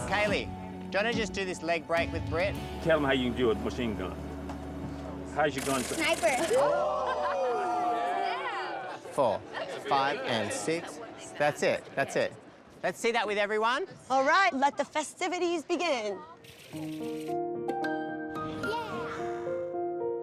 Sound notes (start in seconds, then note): 5.5 mimics machine gun